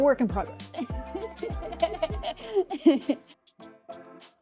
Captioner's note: laughing